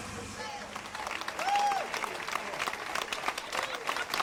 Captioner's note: people clapping